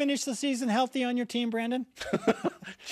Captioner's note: laughs